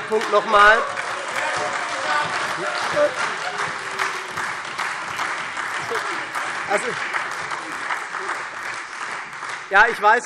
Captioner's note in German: Heiterkeit und Beifall SPD und Freie Demokraten